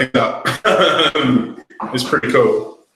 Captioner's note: laughing